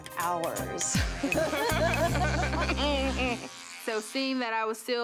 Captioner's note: vibrating noise